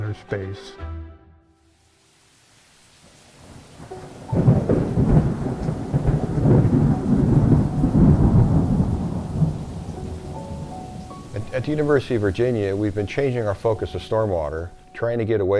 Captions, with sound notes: space. [rain] [thunder] At the University of Virginia we've been changing our focus of stormwater, trying to get away